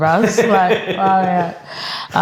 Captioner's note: laughing